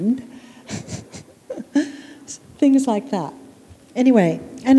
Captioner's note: chuckle